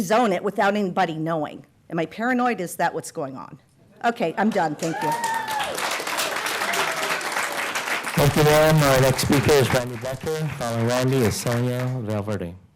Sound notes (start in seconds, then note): 10.3 applause